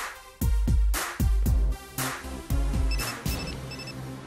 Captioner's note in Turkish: Telefon Sesi